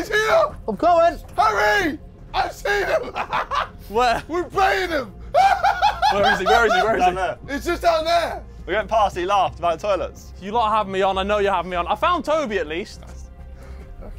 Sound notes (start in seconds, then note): 2.6 laughing